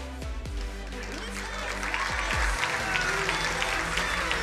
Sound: crowd applauding

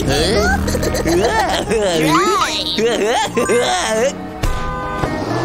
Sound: giggling

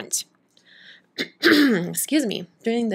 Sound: clears throat

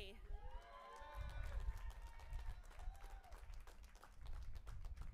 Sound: audience applauding and cheering

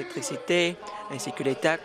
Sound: none

